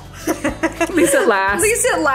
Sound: both women giggling

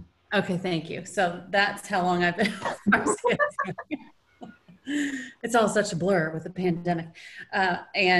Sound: laughing

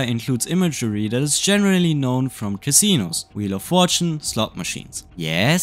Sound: wheel of fortune, slot machines

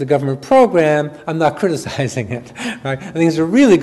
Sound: chuckles

